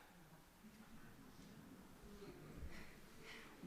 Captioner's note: murmurs from congregation